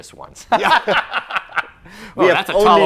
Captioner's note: laughing